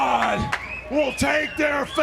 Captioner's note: crowd cheering